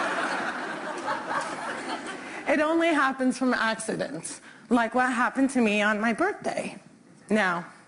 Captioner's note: laughter